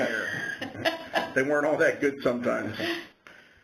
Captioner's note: laughter